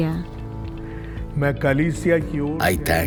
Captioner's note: speaking in foreign language